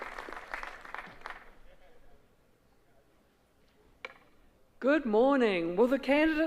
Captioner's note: applause